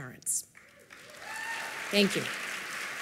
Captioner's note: applause